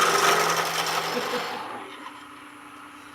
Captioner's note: laughter